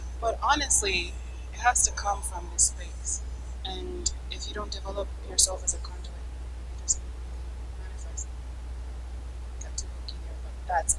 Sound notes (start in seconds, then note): 7.2 mic cuts out